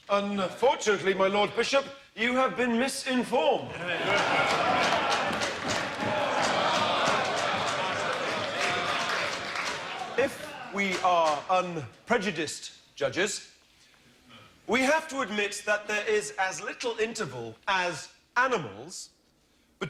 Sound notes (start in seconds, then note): 3.9 applause